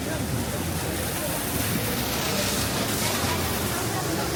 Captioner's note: waterfall cascading